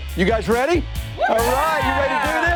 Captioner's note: team cheers in unison